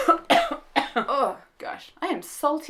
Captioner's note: cough